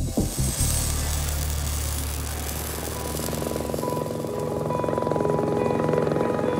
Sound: helicopter whirring

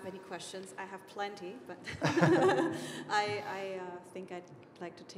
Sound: laughing

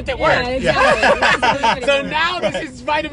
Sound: laughing

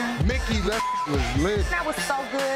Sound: beep

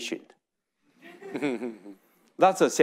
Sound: audience laughing

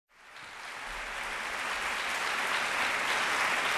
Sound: applause

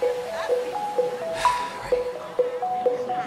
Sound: sighs; audience muttering

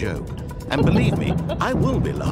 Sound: laughter

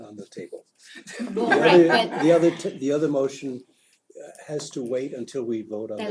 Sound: laugh

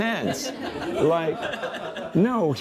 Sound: congregation laughs

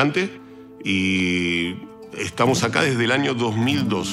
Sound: speaking in Spanish

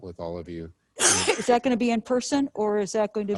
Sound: coughs

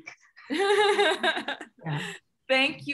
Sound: laughs

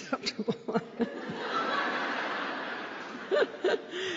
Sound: laughter

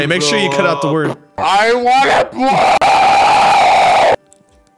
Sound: strangely deep replay of yelling

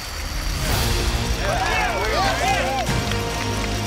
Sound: cheering

